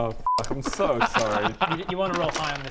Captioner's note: delighted noises